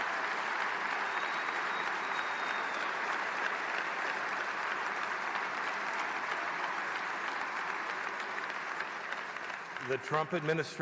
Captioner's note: applause